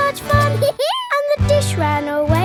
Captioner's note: dog laughs